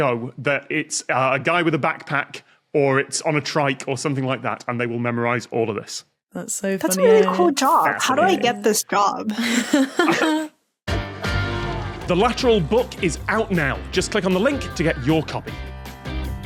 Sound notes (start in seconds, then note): 9.3 laugh